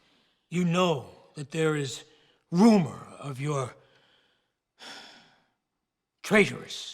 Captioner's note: sighs